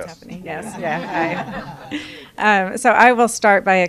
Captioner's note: laughter